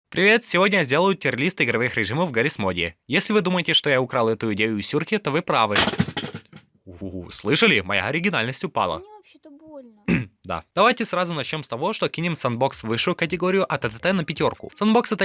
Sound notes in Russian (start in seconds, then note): 5.7 грохот